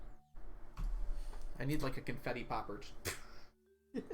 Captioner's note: imitates popping; laughs